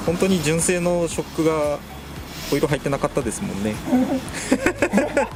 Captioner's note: laughs